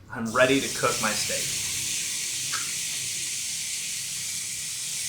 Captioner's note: grill sizzling